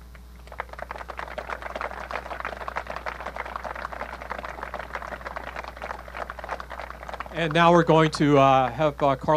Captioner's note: applause